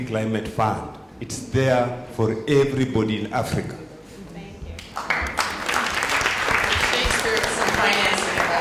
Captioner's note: applause